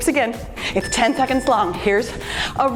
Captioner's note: timer beeps